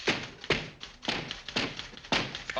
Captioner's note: three knocks